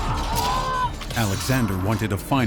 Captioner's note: screams